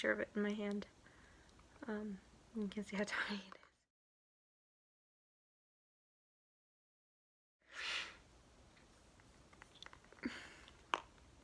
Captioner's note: sharp inhale